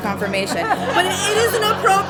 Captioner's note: crowd laughs